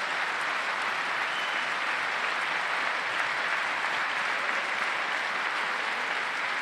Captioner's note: applause